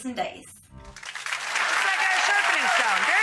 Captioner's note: audience applause